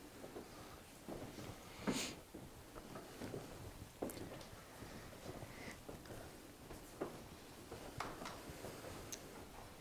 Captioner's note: footsteps in the background